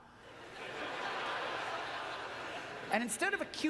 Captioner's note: audience laughter